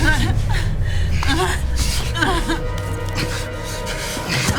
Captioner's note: woman whimpering